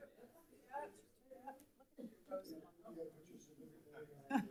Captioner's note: people chatter